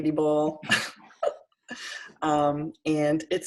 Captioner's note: laughter